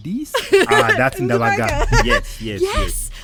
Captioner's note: laughing